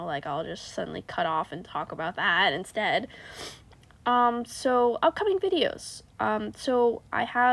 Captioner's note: undignified sniffff